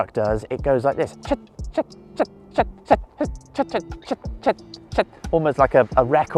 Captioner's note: imitates duck quacking